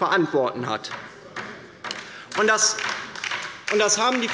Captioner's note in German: Beifall bei der LINKEN